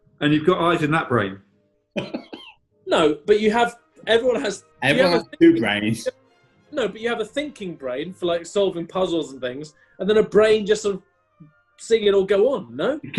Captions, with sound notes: And you've got eyes in that brain. [GIGGLING] No, but you have... Everyone has... "Everyone has two brains..." No, but you have a thinking brain for, like, solving puzzles and things... ...and then a brain, just, sort of... ...seeing it all go on, no?